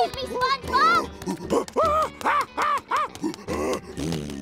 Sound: grunting

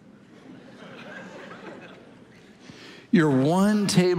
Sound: congregation laughing

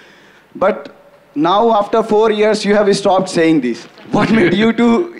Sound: both laugh

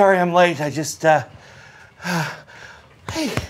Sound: panting

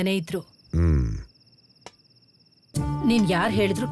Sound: night Ambient Sound

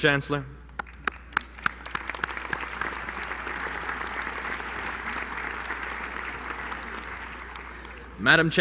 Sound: applause

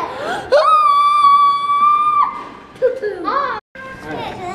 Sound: high-Pitched Scream

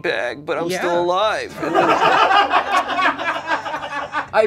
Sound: laughter

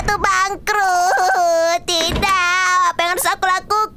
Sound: crying noises; doorknob click

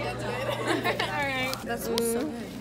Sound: laughs

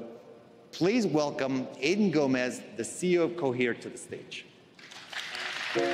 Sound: applause

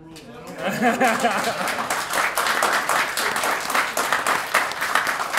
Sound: applause

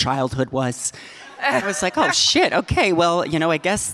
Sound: audience laughing

